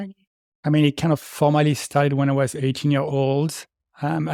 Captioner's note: none